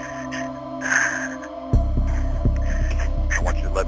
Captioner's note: shuddering breaths